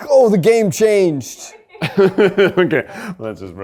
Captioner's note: laughs